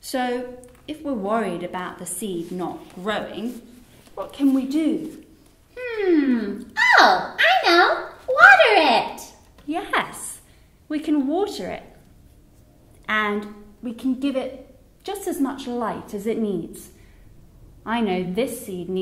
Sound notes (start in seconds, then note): none